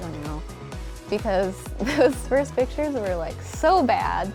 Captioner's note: chuckles